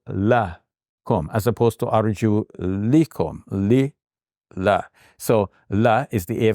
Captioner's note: speaking in Arabic; speaking in Arabic